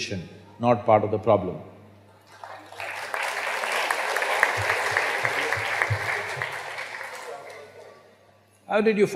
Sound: applause

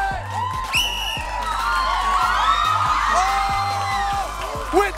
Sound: audience cheering

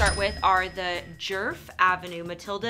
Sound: cash register dings

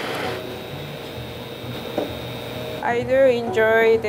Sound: mixer whirring

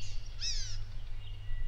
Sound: bird chirps continued

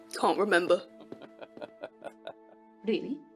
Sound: Dumbledore chuckles

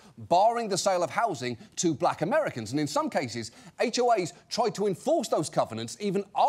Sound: none

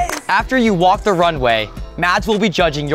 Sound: housemates clapping

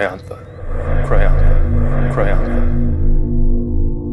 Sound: echoing in space

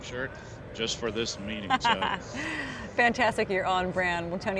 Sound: laughs

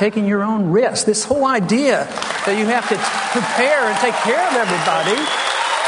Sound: applause

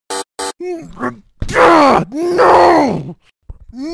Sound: angry Noises

